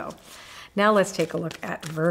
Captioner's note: cards shuffling